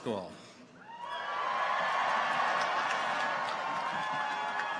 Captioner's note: people cheer